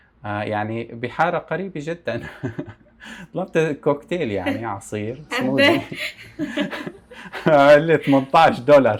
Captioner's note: laughs